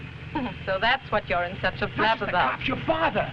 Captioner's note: Raina chuckling